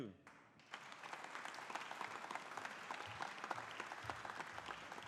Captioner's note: audience applauding